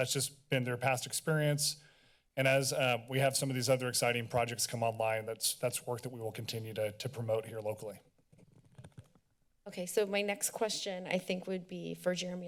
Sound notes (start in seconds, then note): 8.6 rustling